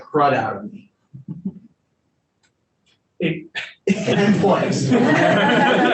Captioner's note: panelists laughing